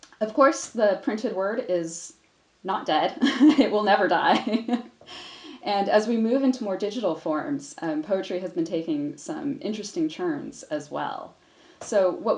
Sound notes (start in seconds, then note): 3.0 laughs; 5.0 laughs